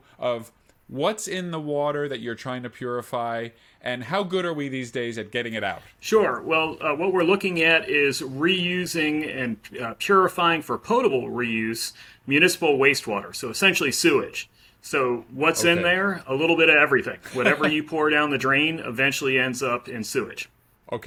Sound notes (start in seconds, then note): 17.2 laughing